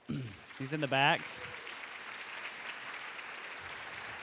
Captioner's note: applause